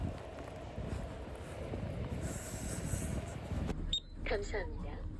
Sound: hurried steps

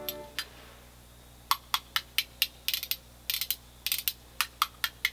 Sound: spoons clicking

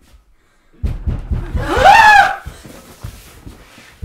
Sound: someone knocks on the door and they freak out

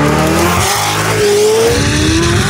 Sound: car Accelerating

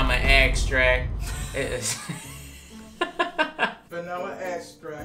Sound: both laughing

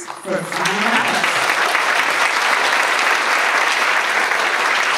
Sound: audience applauds

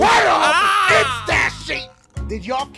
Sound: Markiplier Screaming with much fear

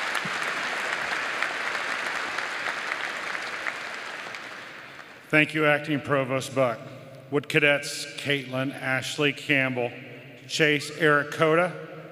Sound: applause

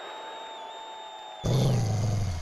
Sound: growling

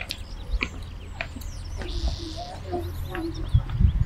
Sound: footsteps

